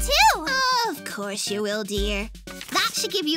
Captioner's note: condescending